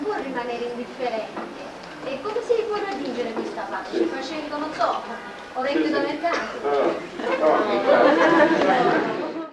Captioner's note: italian